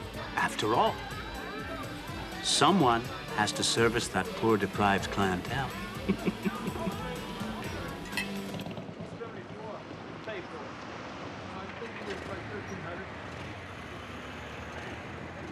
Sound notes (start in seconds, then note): 5.7 laughs mischievously; 8.0 glasses clink